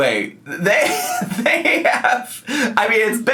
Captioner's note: laughs